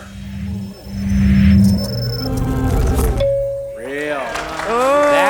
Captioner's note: counter whooshing